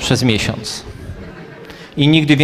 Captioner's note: laugh